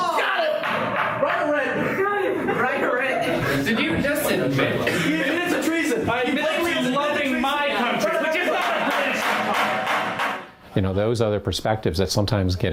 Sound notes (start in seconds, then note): 8.4 gavel sounds